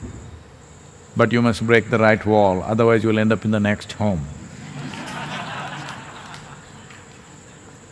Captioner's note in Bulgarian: смях